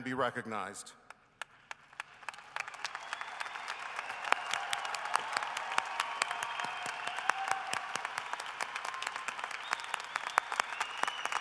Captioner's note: cheering and applause